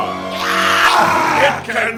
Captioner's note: monsterous shrieking